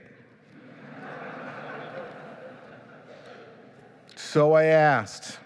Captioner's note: laughing